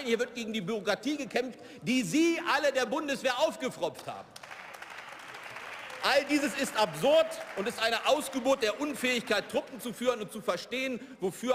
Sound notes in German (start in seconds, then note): 4.2 Beifall